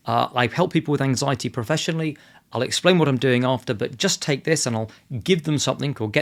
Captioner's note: none